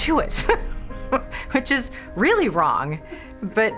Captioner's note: laughs